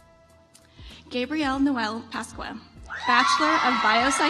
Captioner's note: audience applauds